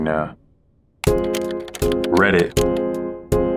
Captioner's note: keyboard typing; inquisitive music